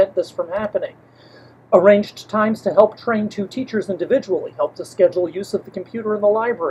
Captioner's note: deep breath